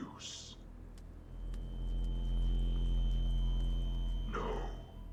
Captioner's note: loud, whining hum